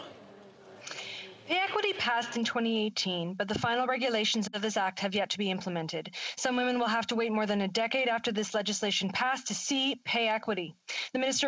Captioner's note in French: voix de l'interprète